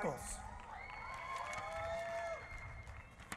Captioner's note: cheering